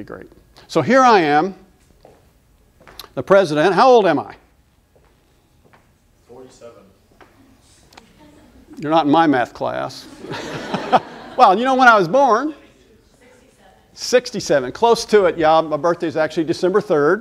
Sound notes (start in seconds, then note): 10.0 laughter